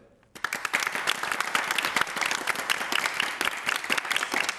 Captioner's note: χειροκρότημα